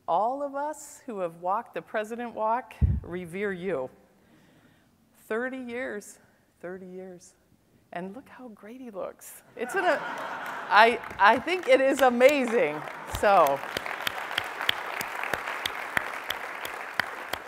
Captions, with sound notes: All of us who have walked the president walk revere you. 30 years. 30 years. And look how great he looks. It's a, [laughter] I, I think it is amazing, so. [applause]